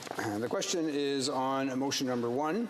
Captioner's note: speaking French